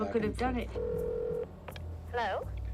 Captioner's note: ringing